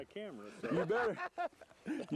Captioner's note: laughter